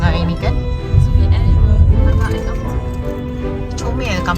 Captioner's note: speaking German